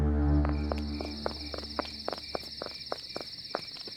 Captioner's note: footsteps